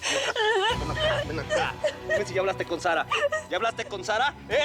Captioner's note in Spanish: llanto más fuerte